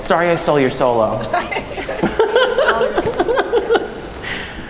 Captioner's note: laughing